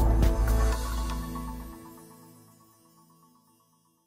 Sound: upbeat music; logo sparkling

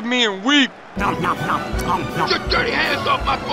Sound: dramatic eating

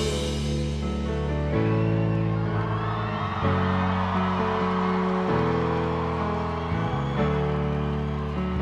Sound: piano interlude; crowd cheers

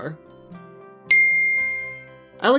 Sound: chimes

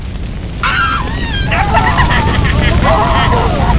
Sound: fire crackling; tortured screaming

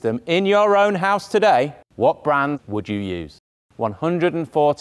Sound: none

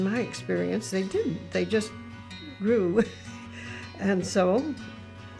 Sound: chuckling

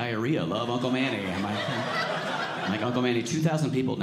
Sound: audience laughing

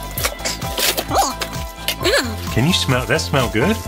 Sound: animalese sound

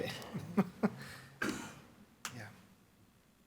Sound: board member chuckles

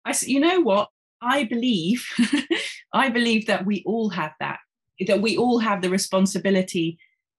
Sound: chuckling

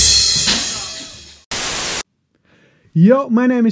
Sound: malfunction sound

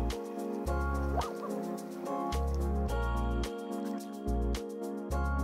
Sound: laughs

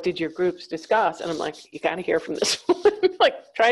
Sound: chuckles

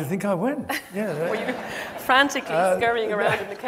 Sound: audience laughs

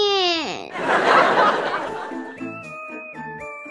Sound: laughter

